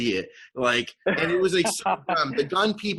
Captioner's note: laughs